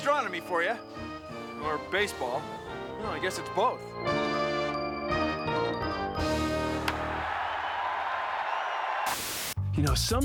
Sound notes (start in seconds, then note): 6.5 <i> crack of the bat</i>; 7.9 <i> crowd cheering</i>